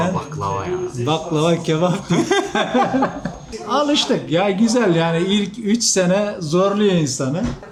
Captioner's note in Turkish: kahkaha